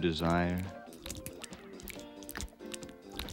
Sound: oil squelching

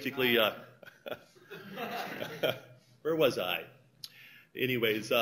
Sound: laughter

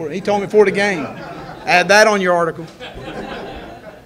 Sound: reporters laugh

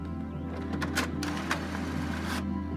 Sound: whirring

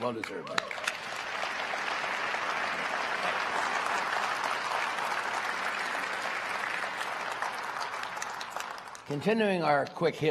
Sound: applause

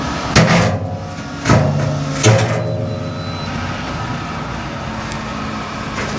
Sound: engine revving

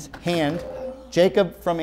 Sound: beeping

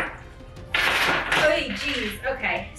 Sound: coins clinks

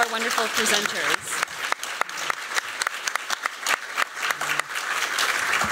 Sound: applause

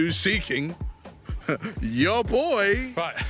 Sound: chuckles

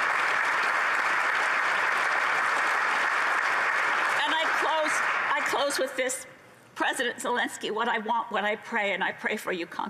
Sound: applause

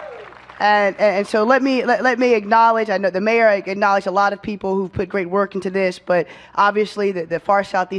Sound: cheers and applause

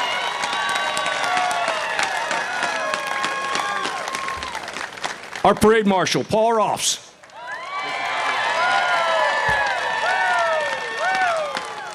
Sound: applause

